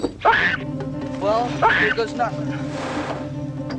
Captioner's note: engine starts